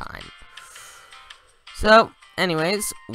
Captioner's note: breathes